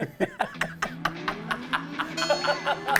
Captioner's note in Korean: 낄낄낄